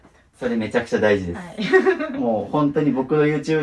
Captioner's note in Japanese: 笑い